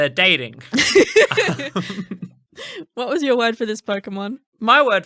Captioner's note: laughing